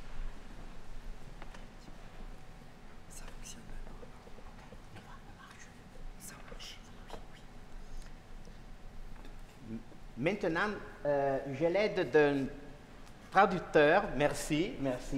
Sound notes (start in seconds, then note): 10.2 speaking french